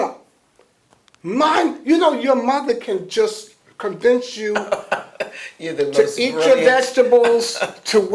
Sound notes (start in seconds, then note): 4.4 laughs